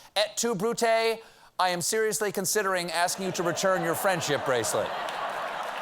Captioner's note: applause; laughter